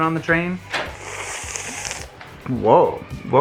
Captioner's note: inhales through teeth